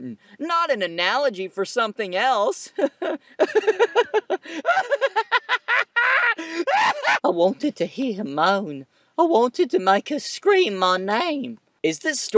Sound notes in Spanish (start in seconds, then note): 2.8 Risas escalofriantes